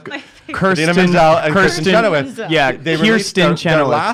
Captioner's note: laughs